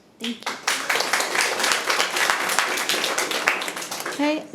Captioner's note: audience applauding